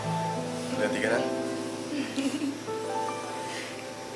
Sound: chuckles

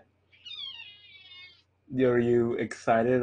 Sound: cat meows

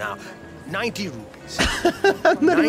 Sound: laughs

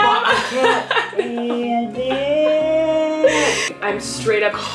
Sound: laughs; muffled screaming

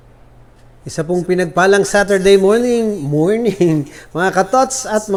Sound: chuckle

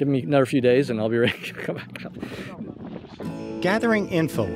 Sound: laughing

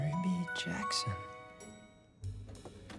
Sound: ding

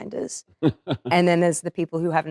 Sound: Cillian laughing

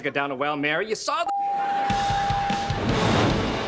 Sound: beeping

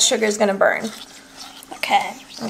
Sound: liquid mixing

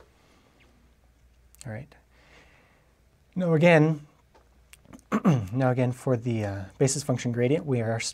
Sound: cough

